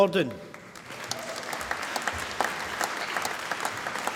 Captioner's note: applause